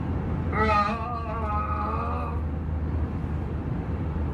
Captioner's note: moaning over plane's PA system